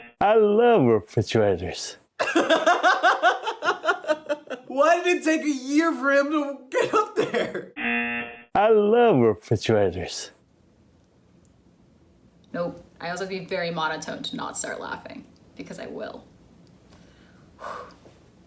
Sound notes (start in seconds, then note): 2.2 laughs; 7.8 buzzer; 17.0 exhales shakily